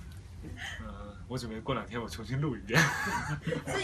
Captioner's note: laughs